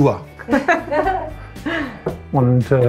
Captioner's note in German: Lachen